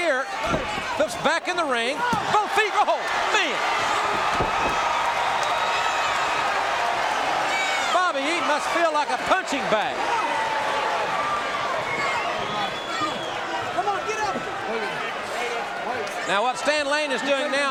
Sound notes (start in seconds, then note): 4.1 audience cheering; 10.0 audience cheering